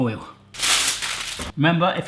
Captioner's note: metallic crunching